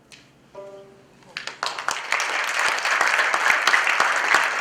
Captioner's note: applause